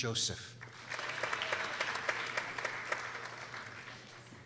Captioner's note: people applauding